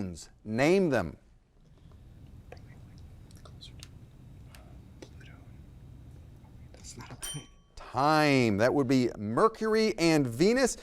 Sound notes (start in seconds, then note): 2.3 faintly speaking; 6.2 faintly speaking; 7.2 bell ringing